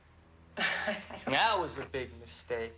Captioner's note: Roslyn scoffs